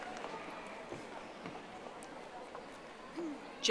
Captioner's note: audience applauding